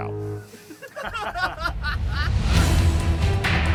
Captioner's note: producer laughing; adventure music